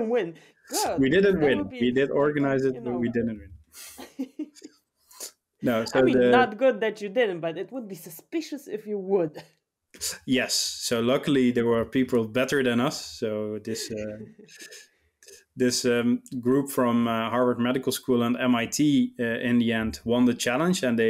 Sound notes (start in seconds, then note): 3.8 chuckles